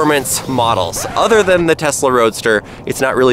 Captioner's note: record scratching